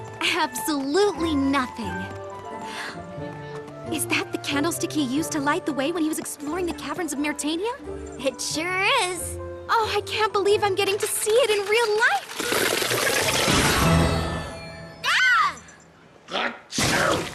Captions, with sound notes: Absolutely nothing! Is that the candlestick he used to light the way when he was exploring the caverns of Maretania? It sure is. Oh, I can't believe I'm getting to see it in real life! (rattle) (poof) (squeals) ACHOO!